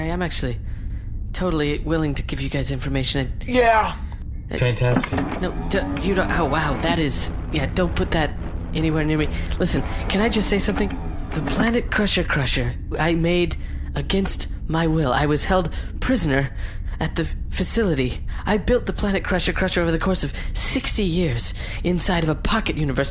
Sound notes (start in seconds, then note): 5.4 menacing whirring noises; 7.2 threatening electric hum